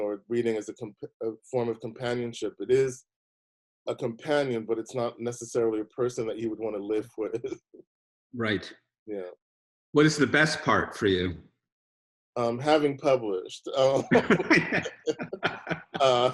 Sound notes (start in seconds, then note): 7.0 chuckling; 13.8 laughing